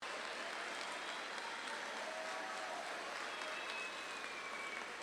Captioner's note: audience clapping and cheering